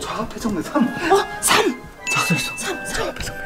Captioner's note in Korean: 띵, 효과음